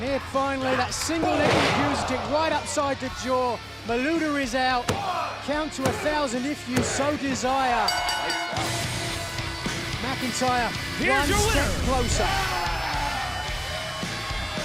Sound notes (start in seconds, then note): 7.8 bell ringing